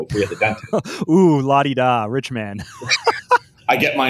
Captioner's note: laughs